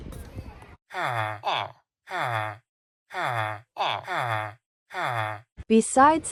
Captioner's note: villager noises